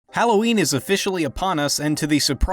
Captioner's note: voiceover